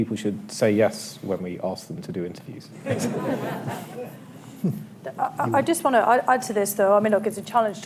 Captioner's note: laughter